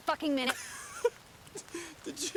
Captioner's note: Noah laughs